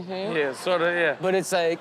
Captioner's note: audience laughs